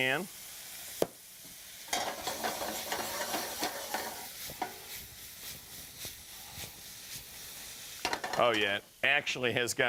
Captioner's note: sizzling pan